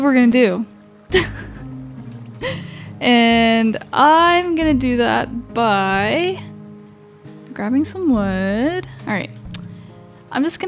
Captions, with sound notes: So that's what we're gonna do. (laughing) And I'm gonna do that by grabbing some wood, all right.